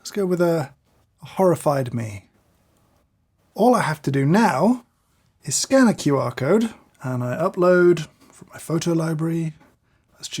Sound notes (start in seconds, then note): none